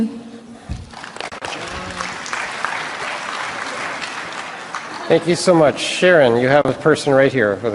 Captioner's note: applause